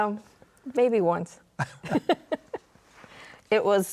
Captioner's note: laughs